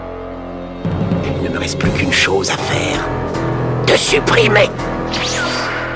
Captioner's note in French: Voix de Vegeta